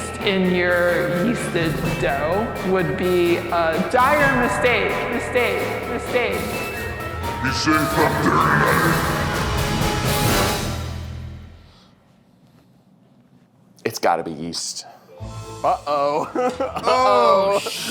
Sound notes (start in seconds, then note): 6.9 echoing; 10.2 dramatic music; 15.6 laughs